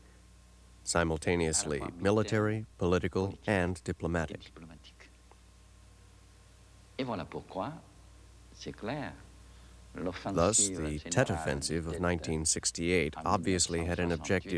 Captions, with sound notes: simultaneously military, political and diplomatic. ( continues in French ) Thus, the Tet Offensive of 1968 obviously had an objective